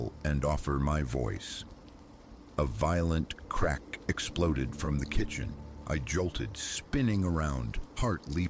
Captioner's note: crack